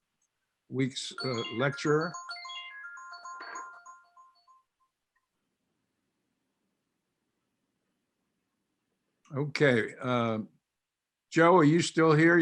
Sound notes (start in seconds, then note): 2.8 tinkling bell alarm rings